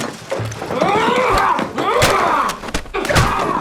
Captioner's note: grunting